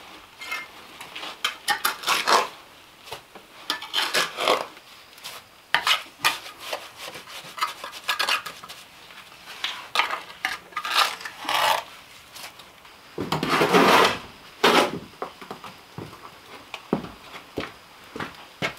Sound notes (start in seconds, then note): 3.6 tools scraping